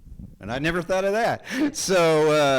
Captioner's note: chuckles